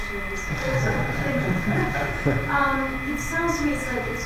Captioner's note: audience laughs